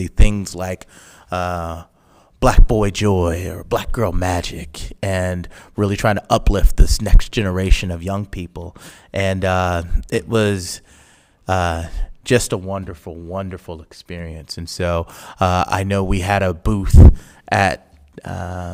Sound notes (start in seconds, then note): none